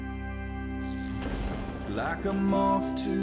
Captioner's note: thunder crackles